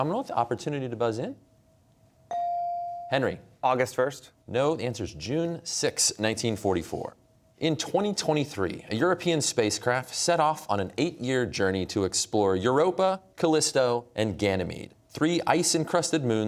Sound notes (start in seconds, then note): none